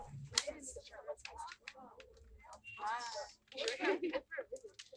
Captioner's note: crowd chattering indistinctly